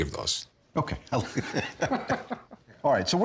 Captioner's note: both laughing